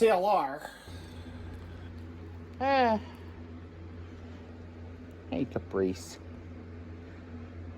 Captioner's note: Caprice sighs